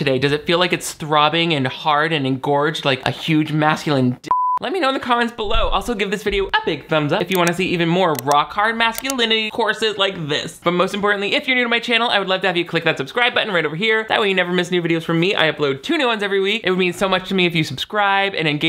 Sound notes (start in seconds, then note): 4.3 beep